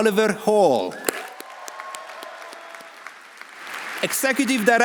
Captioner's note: audience cheering; audience applauding